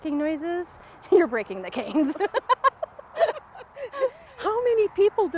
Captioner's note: both laughing